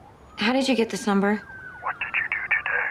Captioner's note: siren wailing